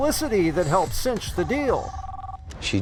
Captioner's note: cell phone ringing